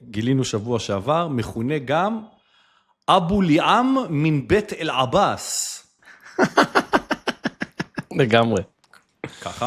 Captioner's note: laughter